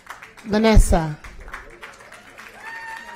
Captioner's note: applause